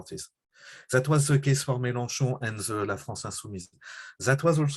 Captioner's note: french